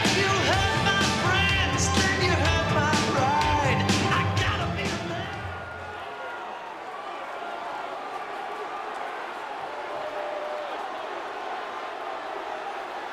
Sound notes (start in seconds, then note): 6.9 crowd chattering